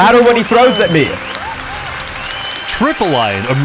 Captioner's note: cheering